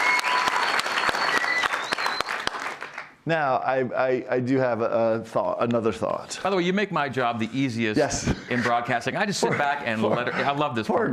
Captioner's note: cheers and applause